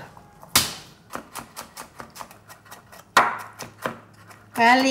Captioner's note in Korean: 칼로 다지는 소리